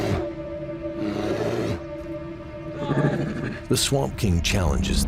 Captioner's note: bear grunts